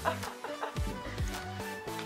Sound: laughter

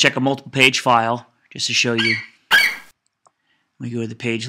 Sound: FlightCheck eagle screeches

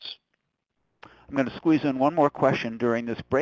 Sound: voiceover

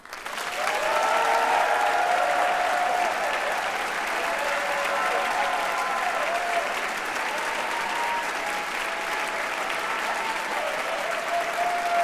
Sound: applause and cheers

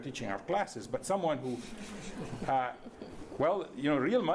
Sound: laughing

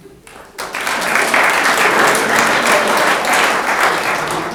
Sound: room applauds

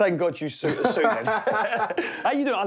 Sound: laughs

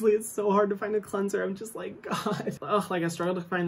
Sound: laughs

